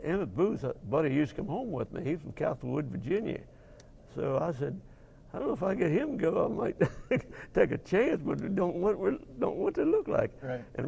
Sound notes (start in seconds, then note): 6.8 laugh